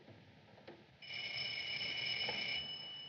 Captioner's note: ringing